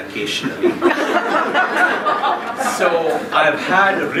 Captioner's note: laughing